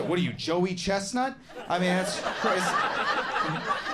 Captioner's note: audience laughing